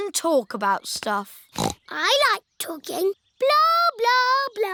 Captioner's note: snorts